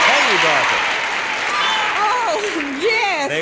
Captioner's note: audience applauding and cheering